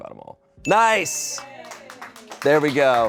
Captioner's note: bell dings; people applaud